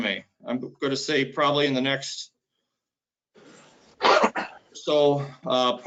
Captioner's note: coughs